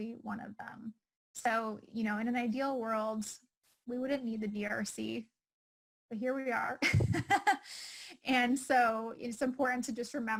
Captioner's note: laughing